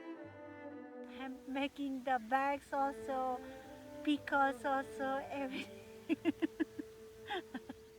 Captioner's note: laughs